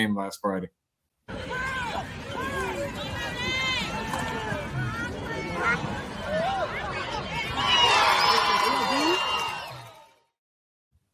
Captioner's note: applause